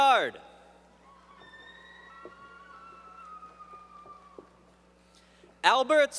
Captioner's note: applause